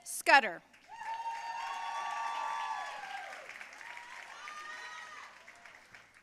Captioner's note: audience cheering and applauding